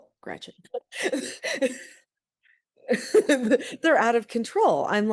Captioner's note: laughs